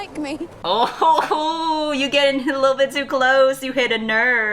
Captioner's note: laughs